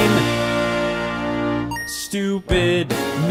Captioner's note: console beeps